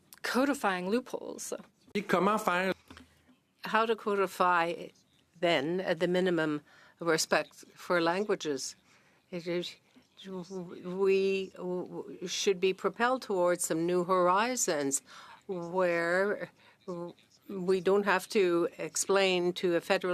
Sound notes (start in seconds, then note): 6.1 speaking French